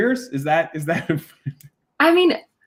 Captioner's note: laughing